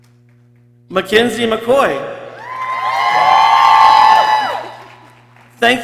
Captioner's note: people cheering